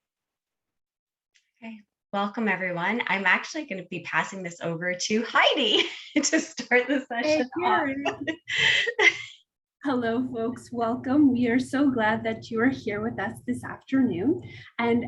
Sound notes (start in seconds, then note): 7.2 laughs